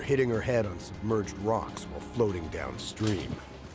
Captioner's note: voiceover